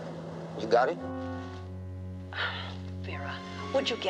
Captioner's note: sighs